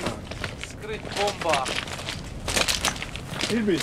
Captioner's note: man speaks in Mongolian